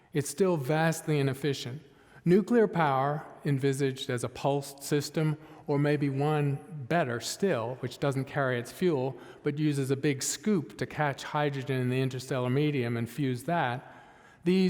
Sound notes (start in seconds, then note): none